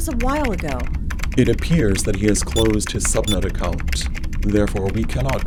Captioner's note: typing